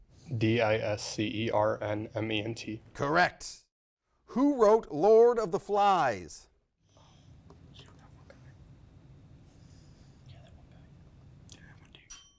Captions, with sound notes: - D-I-S-C-E-R-N-M-E-N-T. - Correct. Who wrote "Lord of the Flies?" (faintly speaking)